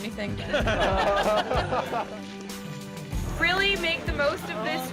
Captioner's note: laughter